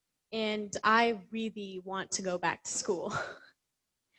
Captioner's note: laughs